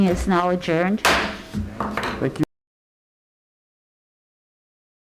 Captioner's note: gavel bangs